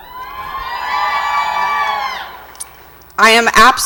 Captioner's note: audience cheers